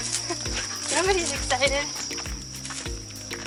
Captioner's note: laughs